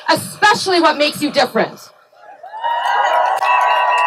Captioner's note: cheering